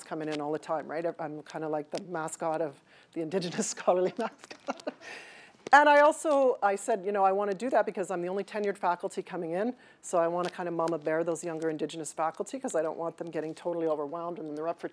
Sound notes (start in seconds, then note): 4.2 laughing